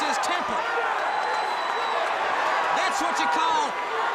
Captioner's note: crowd cheering